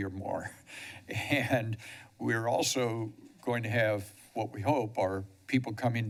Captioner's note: chuckles